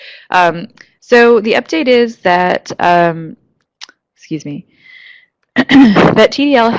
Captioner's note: clears throat